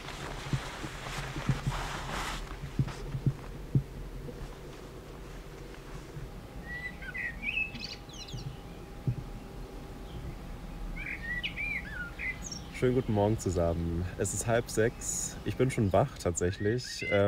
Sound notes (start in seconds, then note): 6.4 birds chirping